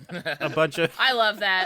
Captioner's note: everyone laughing